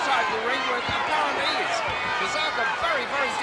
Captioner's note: crowd clamoring